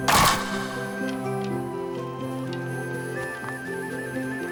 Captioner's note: trap snapping